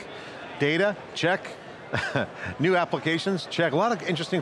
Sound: chuckling

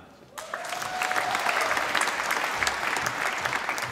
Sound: applause

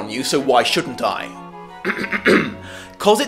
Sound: loud clearing of throat

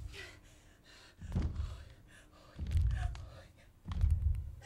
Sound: breathes heavily

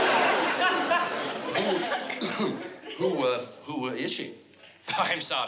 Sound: cough

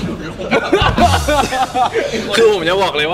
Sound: laughs

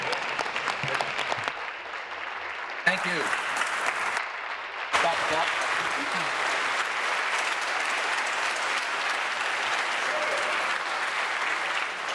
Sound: applause

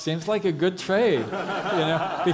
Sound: audience laughs

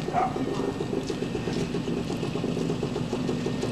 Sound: motorcycle engine noise

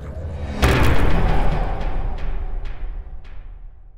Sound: impact

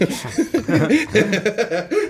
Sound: laughing

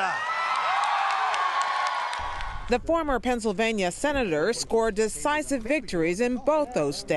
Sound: cheering and applause

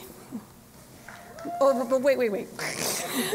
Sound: laughter

